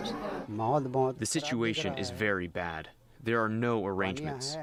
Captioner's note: through translator